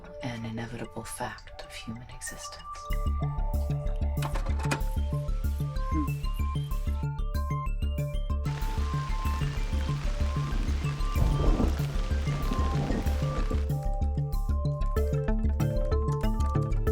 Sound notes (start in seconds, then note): 4.2 projector wheel clacking; 11.1 thunder rumbling